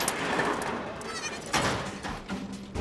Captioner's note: goat bleating